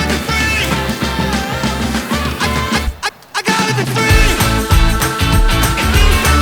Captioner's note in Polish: Aplauz